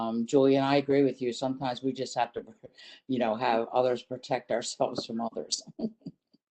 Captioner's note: laughter